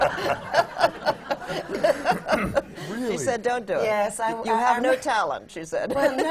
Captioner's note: laughs